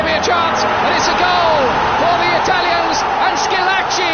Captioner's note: crowd roaring